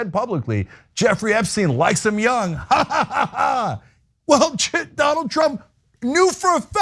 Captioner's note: laugh